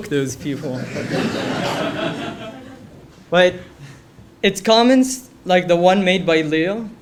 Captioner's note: laugh